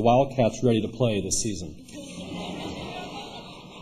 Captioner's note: laughter